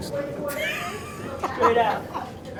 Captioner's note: laughing